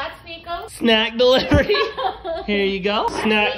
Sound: laughs

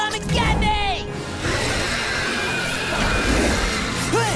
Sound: screeching; grunting

